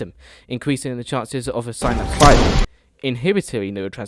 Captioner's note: gunshot